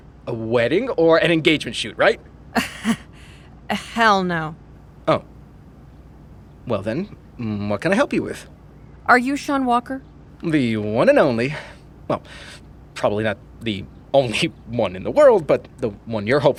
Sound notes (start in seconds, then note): 2.5 laughing